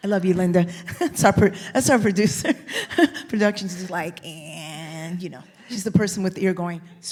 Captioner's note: laughs